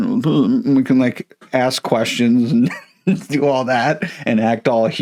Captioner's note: laughs